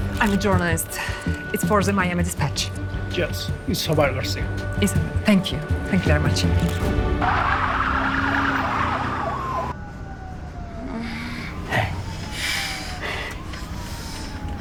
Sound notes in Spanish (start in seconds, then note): 7.0 Chirrido de llantas